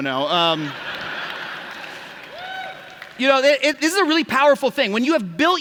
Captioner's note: laughter